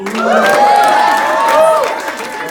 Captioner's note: cheers